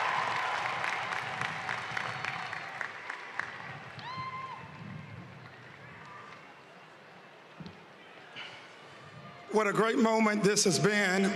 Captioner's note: cheering and applause